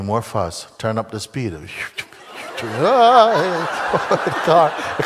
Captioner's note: Lachen